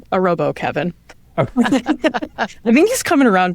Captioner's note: all laugh